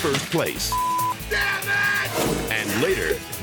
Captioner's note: beep